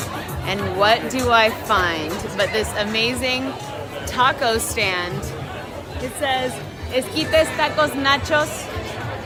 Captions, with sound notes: and what do I find, but this amazing taco stand. It says (speaking in a foreign language).